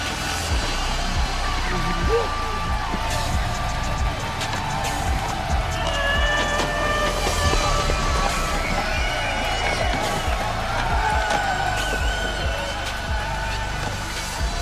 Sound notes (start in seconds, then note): 7.3 audience cheering